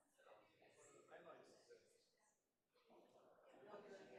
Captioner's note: group chattering